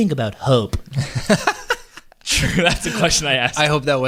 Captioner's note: laughing